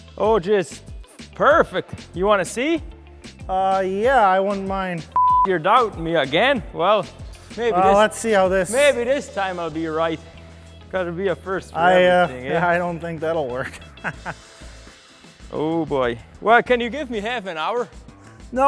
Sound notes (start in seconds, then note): 5.1 beep